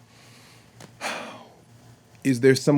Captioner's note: sighs